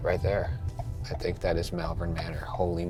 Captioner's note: turn signal ticking